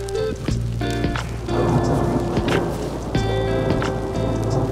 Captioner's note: thunder booming